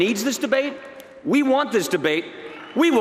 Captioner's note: applause